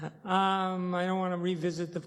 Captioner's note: chuckling